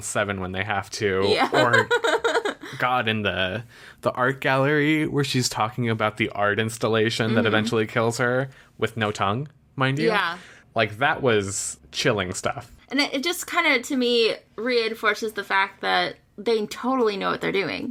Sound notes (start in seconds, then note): 1.3 laughs